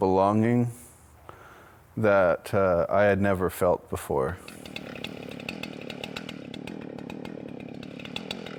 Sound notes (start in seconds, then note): 4.4 tool buzzing